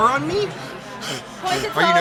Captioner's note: hyperventilates